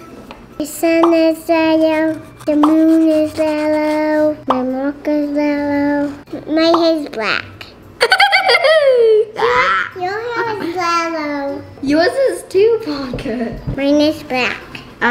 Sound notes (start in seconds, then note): 8.0 laughter